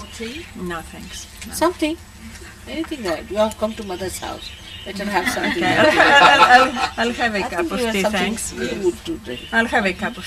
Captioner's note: laughter